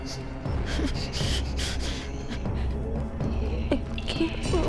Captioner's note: Claire whimpering